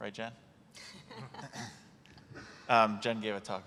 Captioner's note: laughs